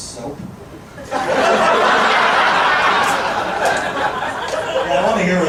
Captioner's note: audience laughing